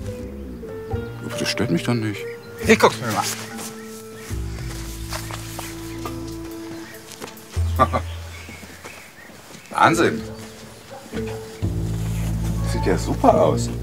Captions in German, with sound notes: Ach, das stört mich doch nicht. Wir gucken mal. (Er lacht.) Wahnsinn! (Schelmische Musik) Das sieht ja super aus!